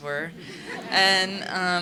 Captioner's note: laughing